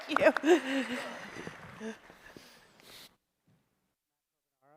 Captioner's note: applause